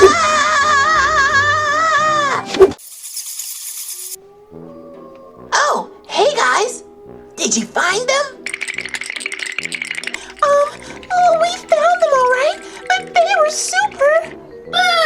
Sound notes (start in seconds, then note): 0.0 screams; 2.6 bats flying; 8.6 shivering sounds